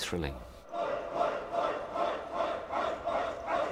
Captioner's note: indistinct shouting